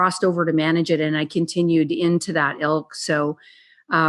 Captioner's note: faintly speaking